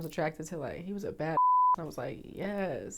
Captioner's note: beep